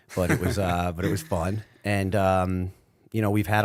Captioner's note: chuckle